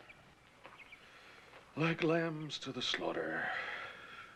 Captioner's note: none